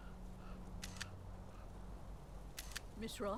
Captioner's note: camera shutter clicks